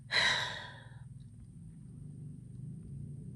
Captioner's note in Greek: αναστενάζει